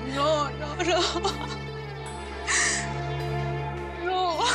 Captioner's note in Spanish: sollozos